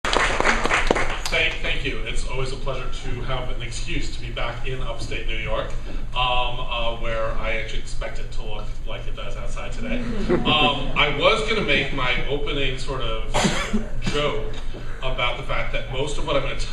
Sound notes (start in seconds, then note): 0.0 applause; 9.8 laughter